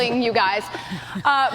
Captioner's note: laughter